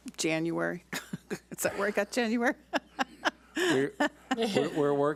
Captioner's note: laughs